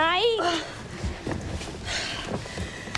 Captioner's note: grunting